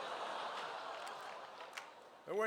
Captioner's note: laughter